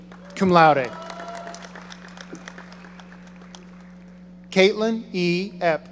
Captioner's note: audience applauding